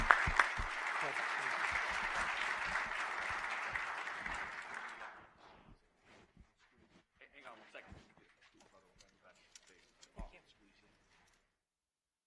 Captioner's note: applause